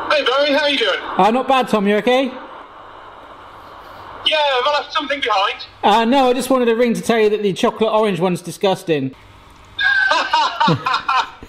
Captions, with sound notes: - Hey bro, how you doing? - Not bad, Tom, you okay? - Yeah, have I left something behind? - Ah no, I just wanted to ring to tell you that the chocolate orange one's disgusting. (Tom laughing)